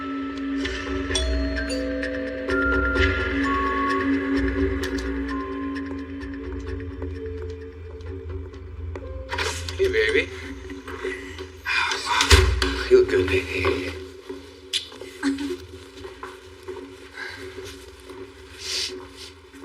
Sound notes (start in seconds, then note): 0.6 doooorbell ringngs; 4.7 tense music